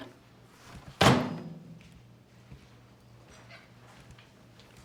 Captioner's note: microwave door shutting